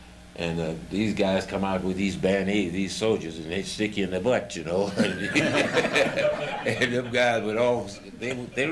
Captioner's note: laughter